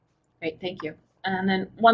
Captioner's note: voiceover